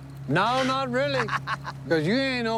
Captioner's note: laughs